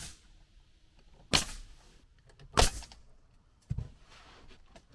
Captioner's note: nail gun shooting